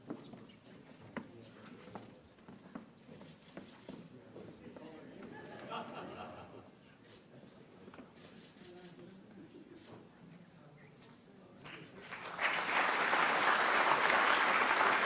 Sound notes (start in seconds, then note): 5.2 laughter; 8.1 cameras clicking; 11.7 audience clapping